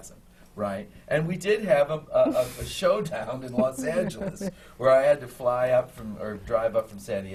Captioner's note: laughs